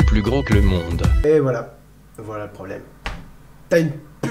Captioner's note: burp